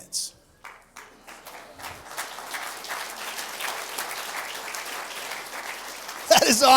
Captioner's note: applause